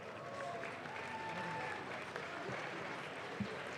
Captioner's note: audience claps